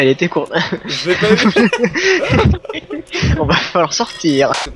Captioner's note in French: Rire